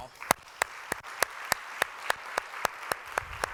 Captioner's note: applause